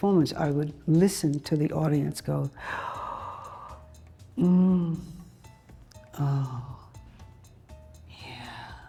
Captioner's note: gasping